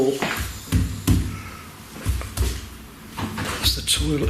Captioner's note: loud banging